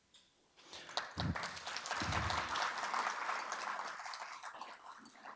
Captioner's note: audience applauding